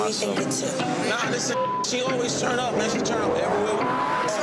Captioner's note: beep